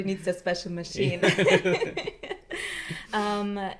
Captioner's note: laughter